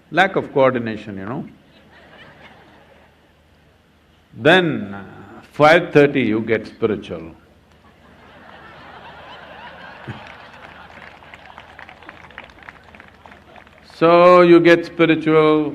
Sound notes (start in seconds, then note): 1.6 laughter; 7.8 laughter/Applause